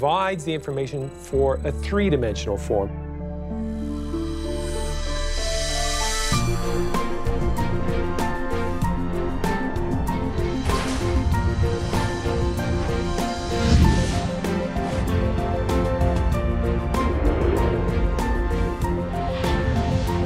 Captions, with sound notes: That provides the information for a three-dimensional form. [whooshes]